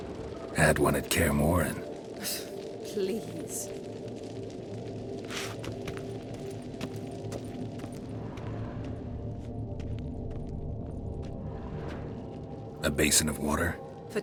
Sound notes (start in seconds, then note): 2.7 scoffs